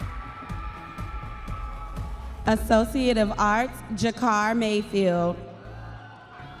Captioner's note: audience members cheering